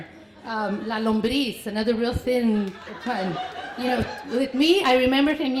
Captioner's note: foreign language